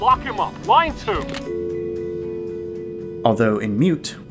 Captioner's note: dial tone